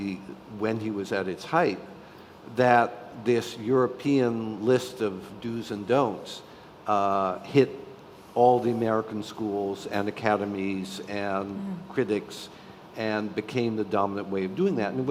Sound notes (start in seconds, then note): none